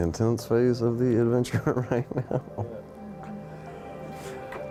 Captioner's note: laughs